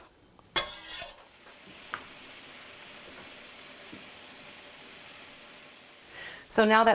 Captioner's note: liquid bubbling